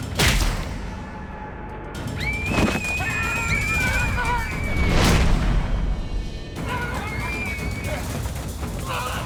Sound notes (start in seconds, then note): 2.3 girl screaming; 3.5 yells